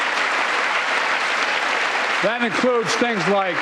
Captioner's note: applause